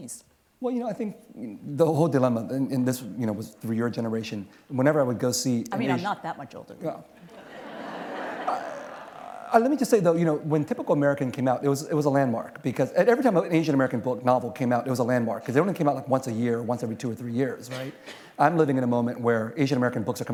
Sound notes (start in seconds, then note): 7.2 laughter